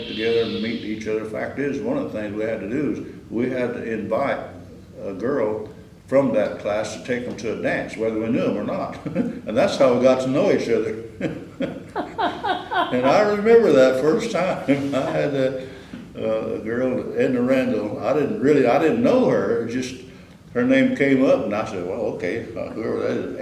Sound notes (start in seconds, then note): 11.2 laughter; 23.0 laughs